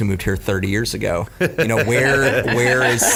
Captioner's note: laugh